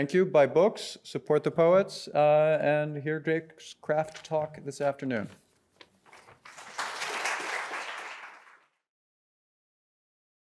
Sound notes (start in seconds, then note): 6.1 audience applauds